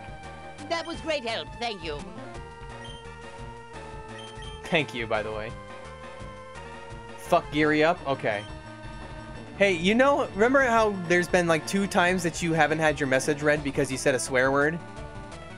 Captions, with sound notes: [donation alert] Thank you, by the way. Fuck Geary up? Ok. Hey, you know- remember how there's been like two times that you haven't had your message read because you said a swear word?